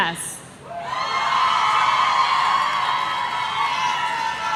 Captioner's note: audience cheering